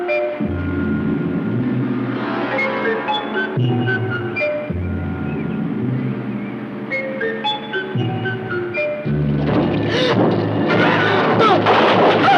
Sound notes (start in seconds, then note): 7.0 Kathy gasps; 7.0 dramatic music